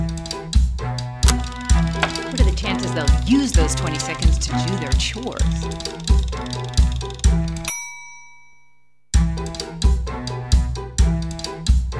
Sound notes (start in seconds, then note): 4.4 closing music; 4.7 timer dings